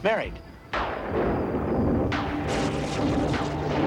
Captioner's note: thunderclap